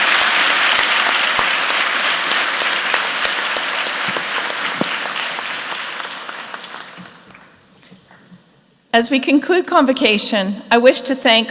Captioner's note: applause